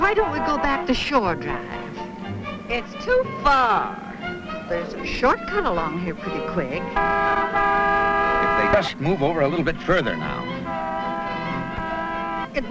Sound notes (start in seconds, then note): 7.5 horn honking